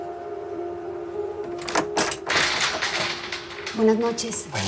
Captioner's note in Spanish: Estruendo